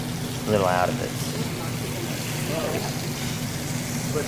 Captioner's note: sizzling